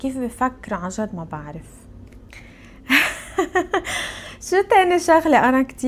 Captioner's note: laughs